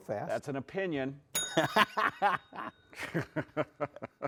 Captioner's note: bell pings; laughs